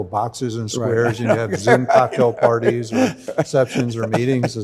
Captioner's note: Arthur laughing